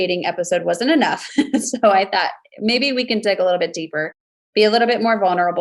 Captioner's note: laughs